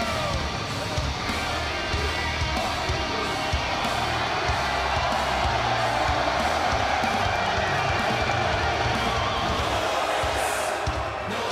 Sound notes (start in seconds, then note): 5.9 crowd cheering